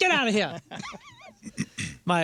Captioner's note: laughing